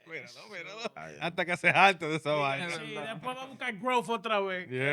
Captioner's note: speaking Spanish